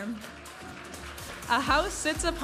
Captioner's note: audience applauding and cheering